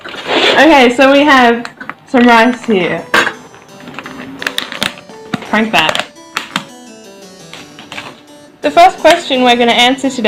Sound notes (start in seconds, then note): 4.3 plastic noises